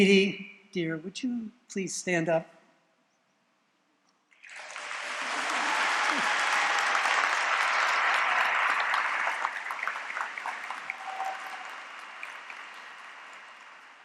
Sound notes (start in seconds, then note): 4.1 applause